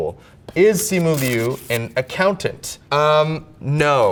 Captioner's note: paper rips